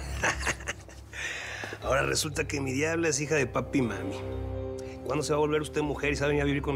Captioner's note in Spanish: risas